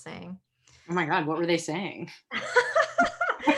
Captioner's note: laughing